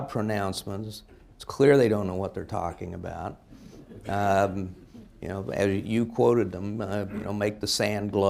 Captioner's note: laughter